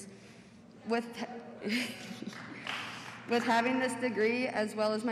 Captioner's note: applause